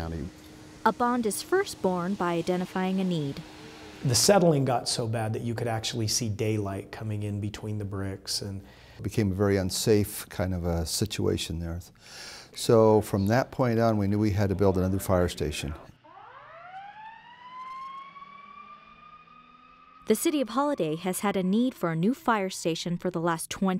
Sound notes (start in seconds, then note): 16.8 siren